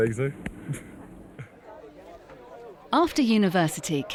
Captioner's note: people chatting